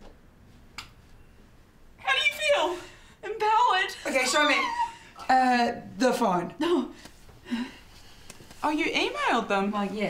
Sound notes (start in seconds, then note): 0.6 light click off